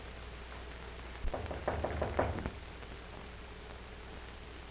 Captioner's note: knocking